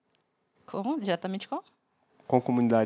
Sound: non-english speech

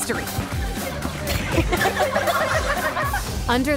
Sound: laughing

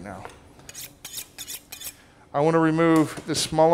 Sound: metal scraping

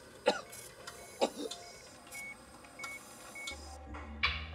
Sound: machine beeping; funky music

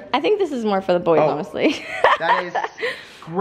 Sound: laughs

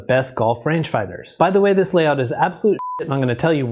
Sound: beep

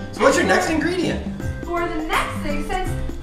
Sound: voiceover

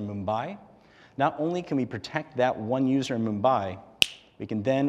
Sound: snap

